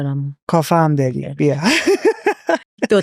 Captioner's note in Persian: خنده